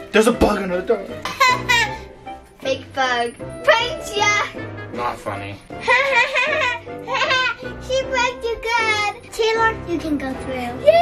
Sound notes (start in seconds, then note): 1.3 evil laugh; 5.8 laughing